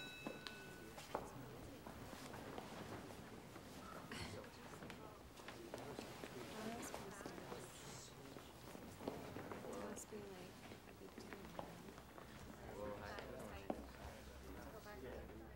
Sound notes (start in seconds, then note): 1.0 students murmur quietly